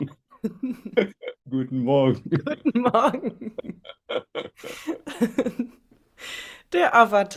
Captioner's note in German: gelächter